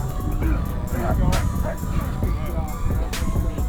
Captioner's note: grunting